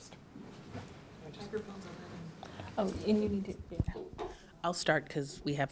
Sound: speaking off mic

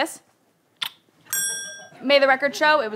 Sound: kiss

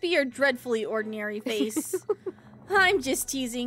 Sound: Mother Gothel Laughs

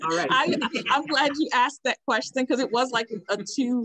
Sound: laughs

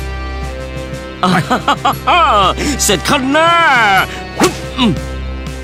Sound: laugh

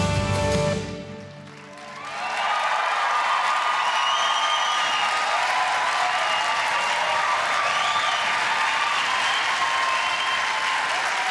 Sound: crowd applause

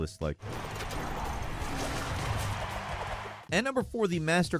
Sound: crowd roars

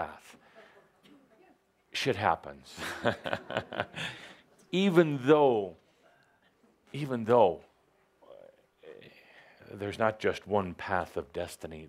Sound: chuckling

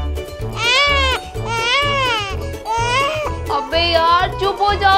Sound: baby is crying

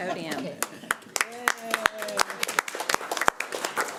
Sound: applause

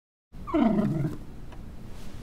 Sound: sad whining

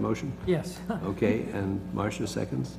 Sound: laugh

